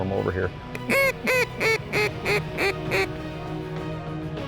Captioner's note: duck calls